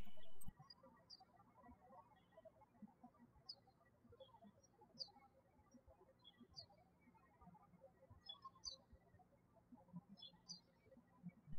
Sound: birds chirping

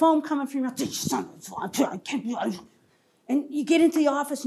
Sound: grumbling

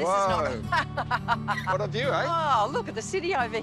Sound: laughs

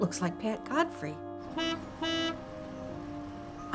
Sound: horn honks

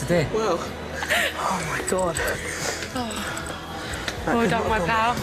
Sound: laughs

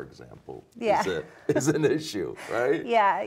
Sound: chuckling

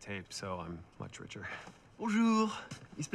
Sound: French accent

